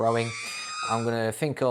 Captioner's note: R2D2 yell